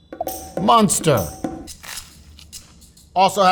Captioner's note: upbeat music; sandwich rustling